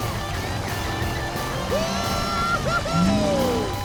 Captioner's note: cheering